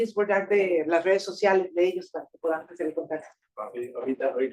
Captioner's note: speaking Spanish